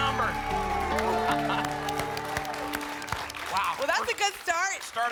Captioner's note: applause and cheering